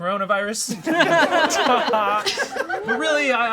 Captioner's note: all laugh